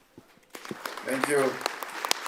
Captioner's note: audience applauds